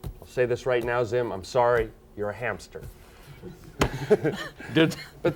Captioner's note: chuckles